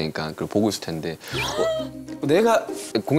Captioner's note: gasp